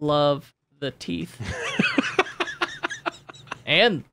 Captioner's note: laughing